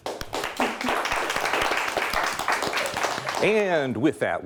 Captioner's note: audience applauds